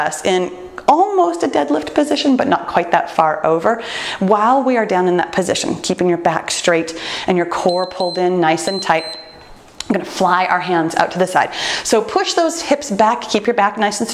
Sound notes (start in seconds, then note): 7.6 timer beeps